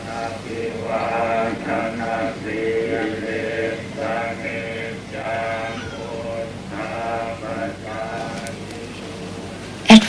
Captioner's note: monks praying